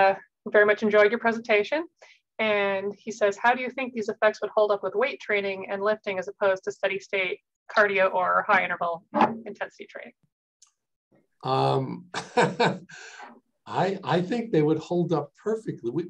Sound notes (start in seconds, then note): 12.0 laughing